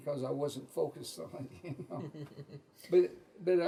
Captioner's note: laughs